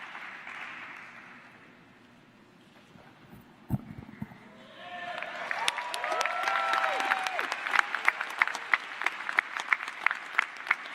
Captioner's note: applause